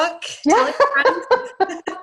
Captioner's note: laughs